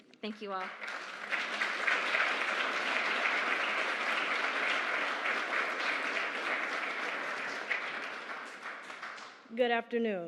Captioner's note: applause